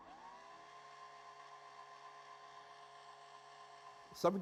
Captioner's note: drill whirring